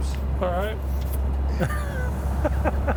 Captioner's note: laughs